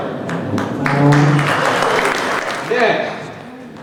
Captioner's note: crowd applauding